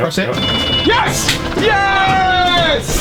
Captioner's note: loud noises and screaming!